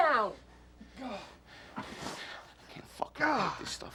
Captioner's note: Friedman groans